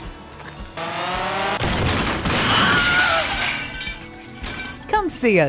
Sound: crash, screams

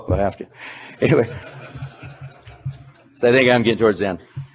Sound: audience laughing

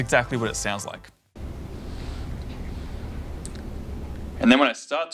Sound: soft static and background noise

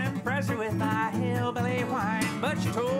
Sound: in nasal voice

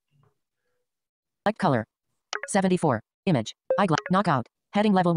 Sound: automated Voice

